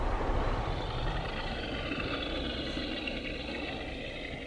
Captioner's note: truck engine whirring